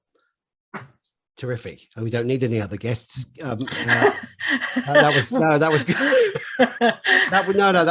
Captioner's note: laughs